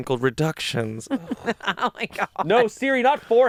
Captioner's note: laughs